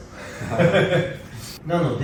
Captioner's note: laughs